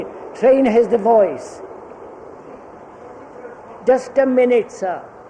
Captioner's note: sound of train